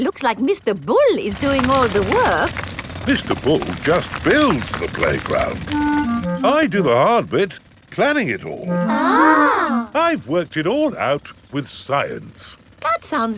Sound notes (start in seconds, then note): 8.9 children gasp in awe